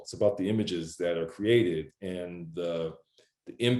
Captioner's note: none